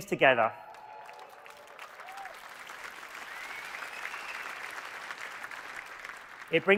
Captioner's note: audience cheering and applauding